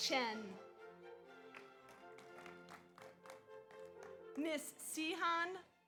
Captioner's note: audience applauds